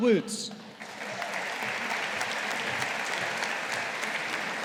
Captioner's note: audience applauding